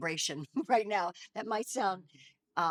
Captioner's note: laughing